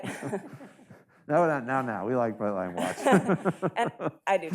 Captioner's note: laughs